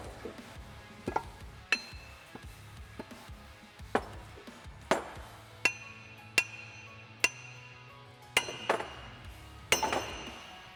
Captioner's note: hammering